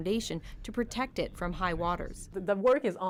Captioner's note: speaking French